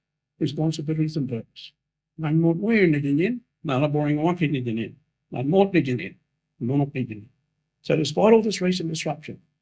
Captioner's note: speaking in Noongar language